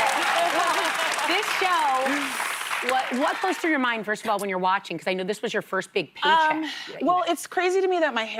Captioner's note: applause